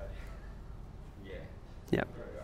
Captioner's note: voiceover